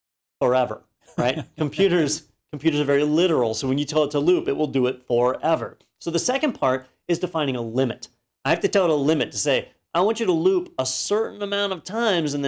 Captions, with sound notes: Forever, right? [LAUGH] Computers are very literal, so when you tell it to loop, it will do it forever. So, the second part is defining a limit. I have to tell it a limit, to say I want you to loop a certain amount of times and